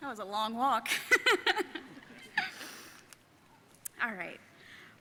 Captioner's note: laughing